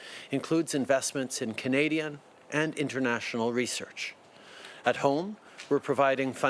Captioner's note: speaking French